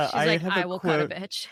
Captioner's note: chuckling